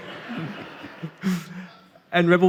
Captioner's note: audience laughing